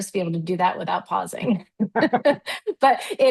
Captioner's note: chuckles